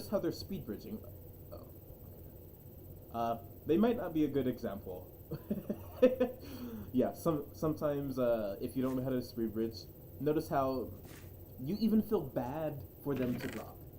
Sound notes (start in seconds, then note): 5.3 chuckle